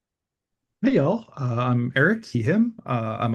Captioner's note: American accent